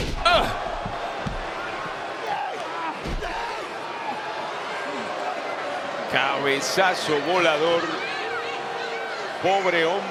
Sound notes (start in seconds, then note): 0.6 applause